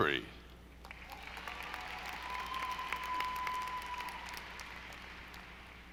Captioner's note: audience applauding